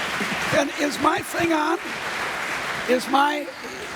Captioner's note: applause